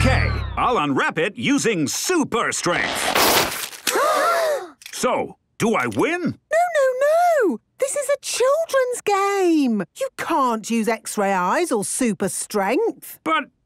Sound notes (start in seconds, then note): 3.8 all gasp